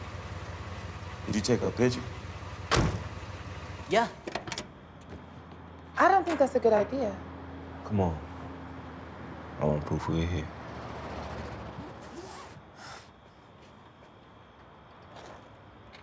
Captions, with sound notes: Could you take our picture? (door slams) - Yeah. - I don't think that's a good idea. - Come on. I want proof we were here. (sighs)